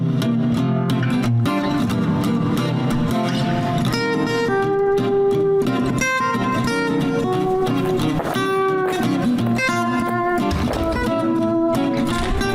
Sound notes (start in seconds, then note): 0.0 guitar music; 8.4 door; 8.4 guitar music